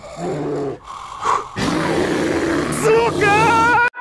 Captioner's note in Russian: сильный рёв